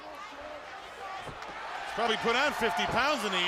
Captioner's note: crowd chatter